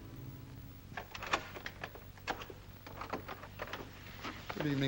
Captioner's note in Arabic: مقبض الباب يهتز ثم ينفتح